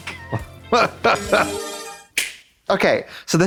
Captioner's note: bright chime